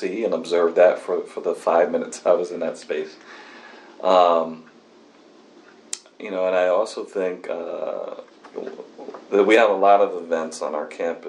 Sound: laughs

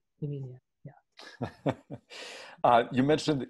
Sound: laughs

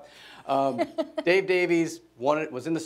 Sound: laughing

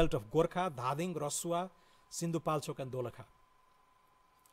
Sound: foreign language

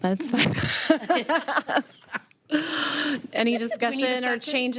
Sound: all laughing

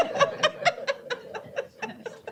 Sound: laughter

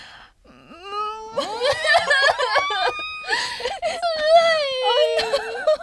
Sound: girls crying

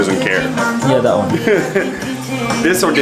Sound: laughs

